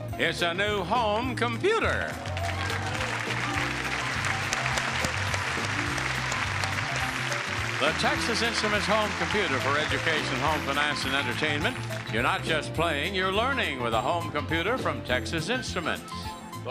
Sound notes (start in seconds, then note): 2.0 audience cheering